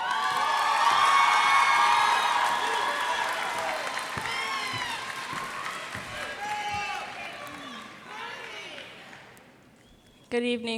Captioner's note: cheers and applause